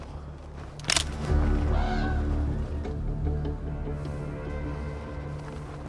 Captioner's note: stick breaks